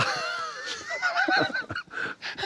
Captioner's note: laughter